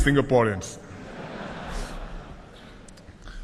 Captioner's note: laughter